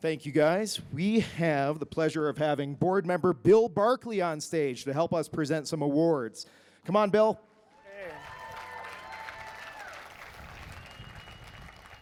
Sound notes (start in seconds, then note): 7.7 crowd cheers